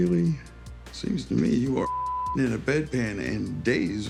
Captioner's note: beep